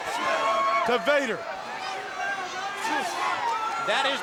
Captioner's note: crowd cheering